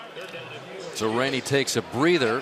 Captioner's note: pa announcement